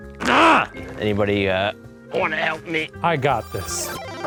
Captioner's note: grunts